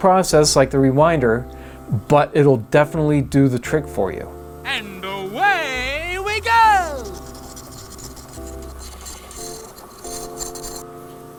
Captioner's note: silly male voice: and away we go!